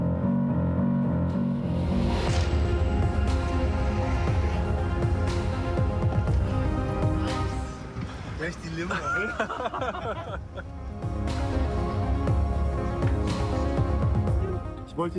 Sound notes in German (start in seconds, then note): 0.2 dramatische Musik; 6.0 spricht in einer Fremdsprache; 8.7 lacht; 9.8 dramatische Musik